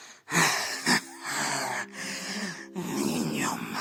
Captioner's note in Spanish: Risas macabras